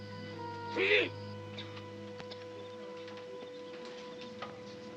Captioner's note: shouts in Japanese